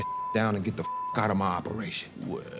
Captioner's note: beep